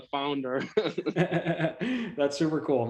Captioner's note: both laughing